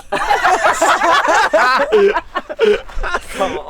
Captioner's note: laughs